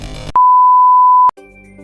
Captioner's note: beeping sound; soft music